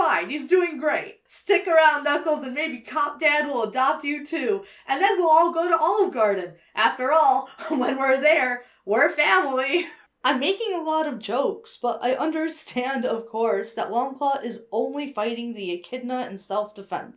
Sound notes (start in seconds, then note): 9.7 wheezes